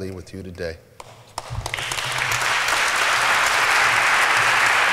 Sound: applause

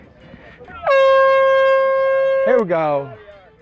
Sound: horn blowing

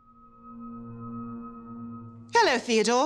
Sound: pulsating

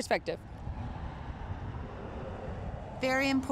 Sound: cars passing

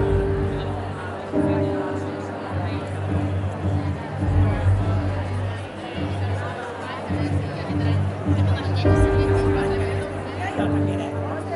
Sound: people chattering

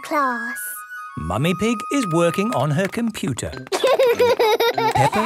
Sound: laughter

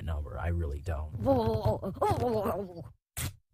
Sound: choking & struggling

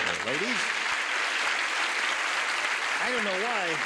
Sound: cheers and applause

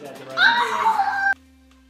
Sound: yells

